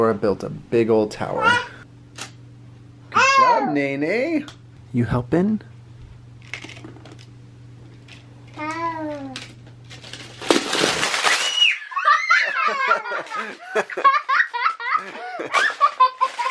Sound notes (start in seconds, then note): 11.4 screaming; 11.9 laughing